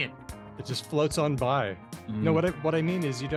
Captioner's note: chuckles